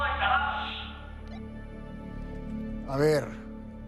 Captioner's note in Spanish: Bip